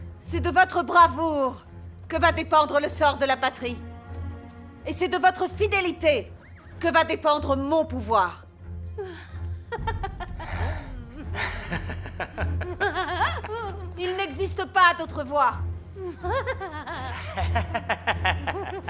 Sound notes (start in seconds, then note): 9.0 Elisabeth giggling; 11.2 Peter chuckling; 16.0 both laughing